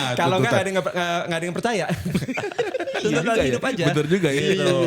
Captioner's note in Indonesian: tertawa